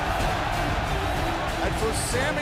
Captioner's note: cheers & applause